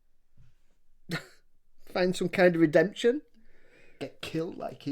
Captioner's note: laughs incredulously